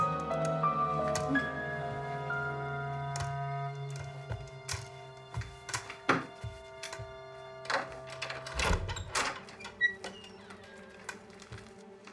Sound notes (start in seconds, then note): 1.2 crutches thudding; 7.5 door creaking